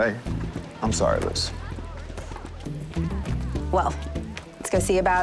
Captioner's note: crowd chatter